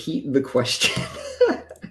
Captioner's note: laughs